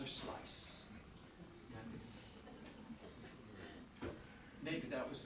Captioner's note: audience chuckling